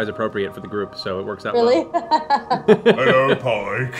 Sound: laughs

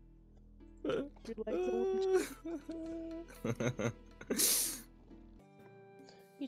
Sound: laughs

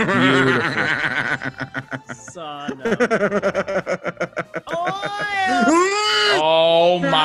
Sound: laugh

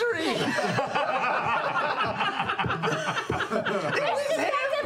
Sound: group laughter

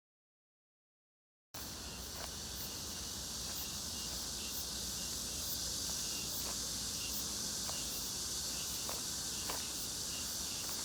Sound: sound of grasshopper

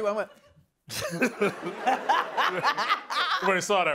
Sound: laughing

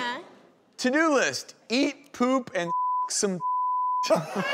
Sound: beep

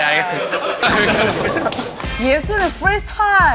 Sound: cracks up

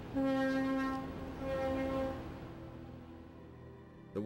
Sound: ship horn sounds

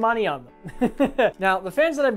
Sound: laughs

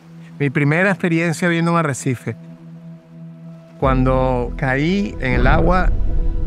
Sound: speaker speaking in foreign language

